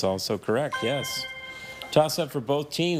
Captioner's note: chime resonating